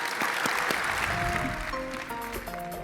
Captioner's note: applause